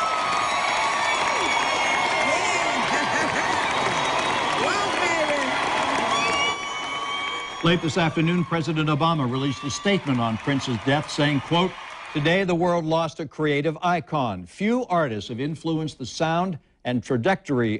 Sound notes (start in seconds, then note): 11.4 cheers and applause